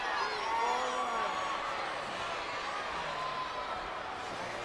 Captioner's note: applause